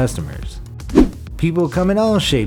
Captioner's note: air whooshes